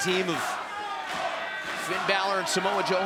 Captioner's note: crowd cheering